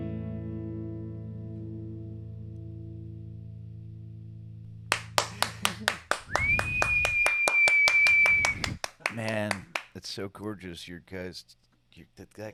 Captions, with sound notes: (gentle music) (claps) Man, that's so gorgeous, you guys.